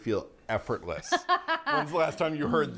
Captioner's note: laughs